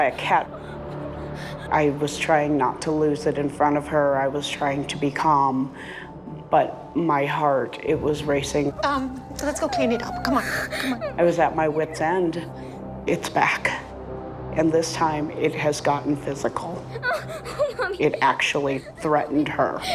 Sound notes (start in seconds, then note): 16.4 Reenactment Bryn sobbing